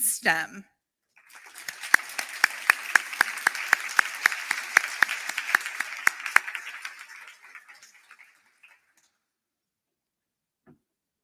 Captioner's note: applause